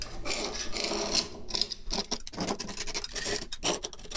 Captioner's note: chisel scraping